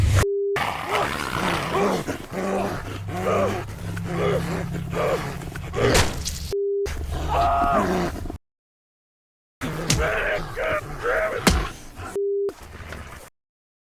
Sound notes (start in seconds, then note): 0.6 grunting; 3.4 Arawn gasping; 3.4 wolf growling; 5.7 flesh tearing; 7.1 screams; 9.8 rifle whacking; 12.6 wolf growling